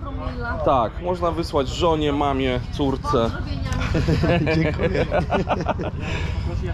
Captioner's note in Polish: śmiech